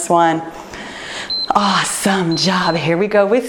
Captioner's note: timer beeps